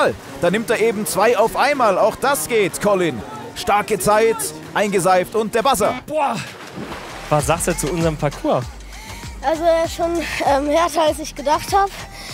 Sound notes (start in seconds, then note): 6.6 Plätschern